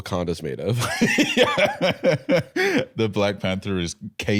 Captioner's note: laughing